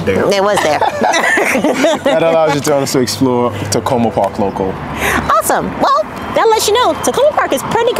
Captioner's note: laughing